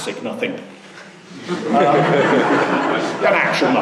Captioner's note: laughing